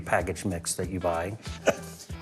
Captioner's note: chuckles